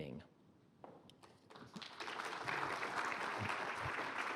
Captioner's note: applause